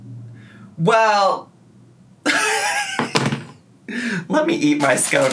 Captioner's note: laughing